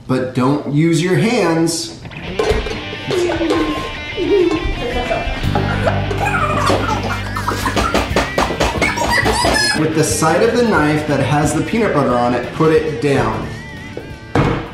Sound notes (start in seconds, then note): 3.1 uptempo rock music; 7.0 laughing